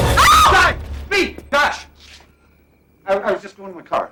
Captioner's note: woman screams